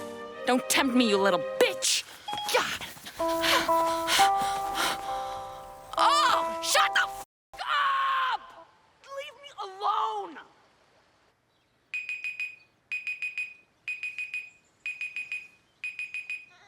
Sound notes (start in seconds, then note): 3.7 phone beeping, lullaby playing; 11.6 alarm ringing